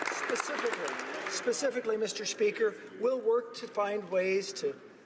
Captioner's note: applause